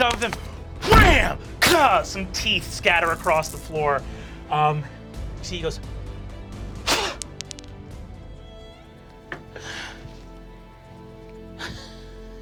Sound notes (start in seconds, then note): 6.8 spitting; 9.2 gentle music